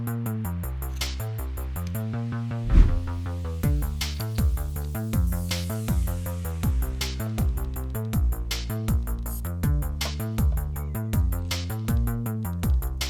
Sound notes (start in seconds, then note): 2.6 whoosh